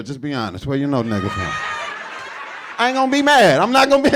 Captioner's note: audience laughing